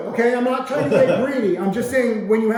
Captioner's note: laughing